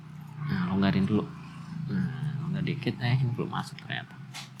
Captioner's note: motorbike sound is passing